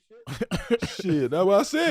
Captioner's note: Rel laughing